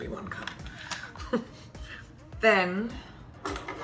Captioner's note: chuckling